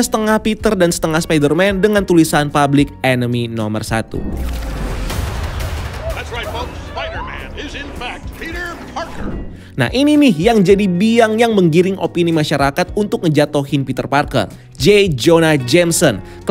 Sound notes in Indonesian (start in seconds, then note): 4.1 suara transisi; 8.9 suara transisi